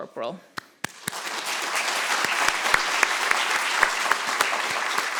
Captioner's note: audience applauding